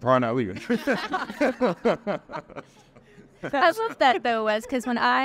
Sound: all laughing

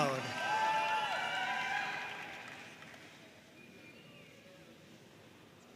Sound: audience cheering and applauding

